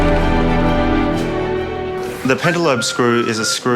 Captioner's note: cheering and applause